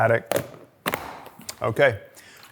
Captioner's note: lid clicking